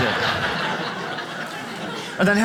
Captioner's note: audience laughs